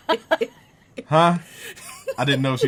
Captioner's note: laughs